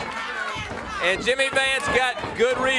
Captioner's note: crowd chatter